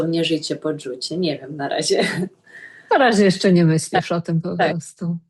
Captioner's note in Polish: śmiech